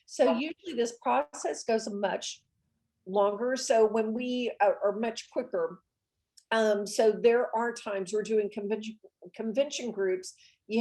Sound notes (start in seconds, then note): none